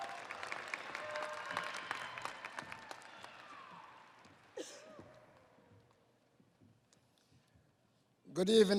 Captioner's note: audience applauding